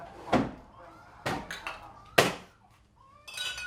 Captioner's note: radio and underscore stops